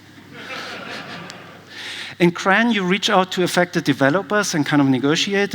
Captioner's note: laughter